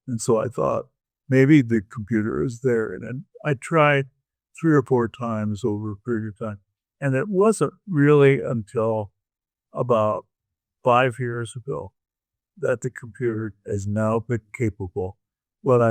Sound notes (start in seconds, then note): none